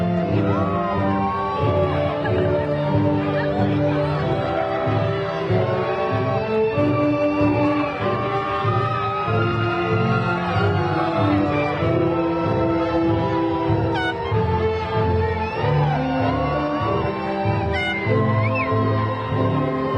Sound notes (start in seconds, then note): 8.4 graduation music continues; 13.8 crowd cheering